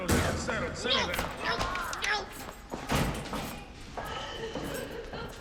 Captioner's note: moaning, crying